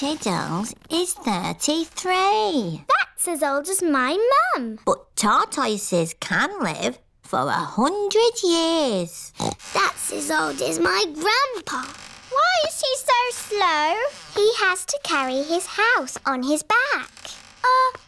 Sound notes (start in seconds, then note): 9.3 snorts